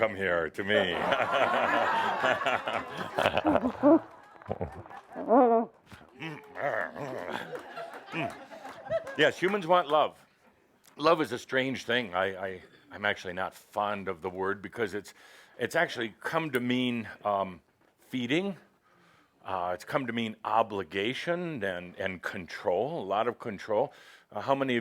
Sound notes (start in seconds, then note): 4.3 laughter as he gives her an enthusiastic hug